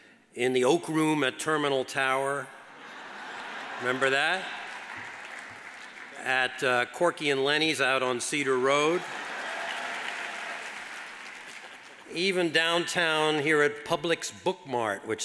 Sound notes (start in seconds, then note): 2.6 audience laughs; 5.0 audience applauds; 8.8 audience applauds